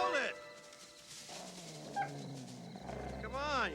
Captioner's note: coyote howling